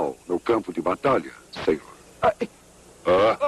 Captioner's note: tom grunts